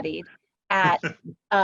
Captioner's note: laughter